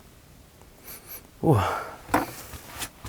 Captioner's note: sniffling